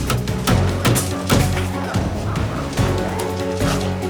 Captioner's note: hammer banging